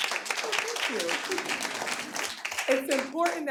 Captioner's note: audience applauding